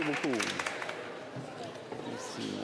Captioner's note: cheers & Applause